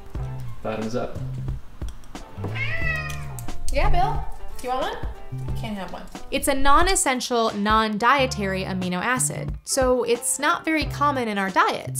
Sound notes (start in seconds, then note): 2.3 cat miaows